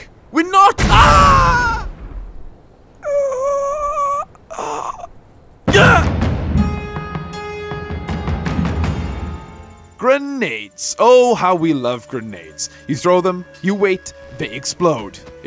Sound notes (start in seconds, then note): 3.0 pain noises